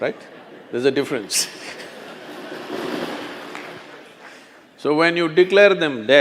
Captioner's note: few laugh